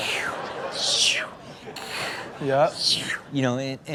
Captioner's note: Rob continues to make swooshing noise